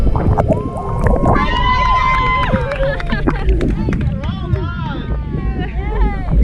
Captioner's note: group cheering and clapping